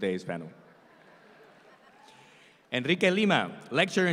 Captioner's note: audience laughs